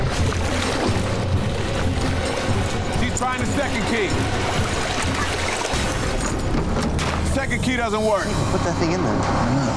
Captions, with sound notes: She's trying the second key. Second key doesn't work. (water splashing) - She didn't put that thing in there.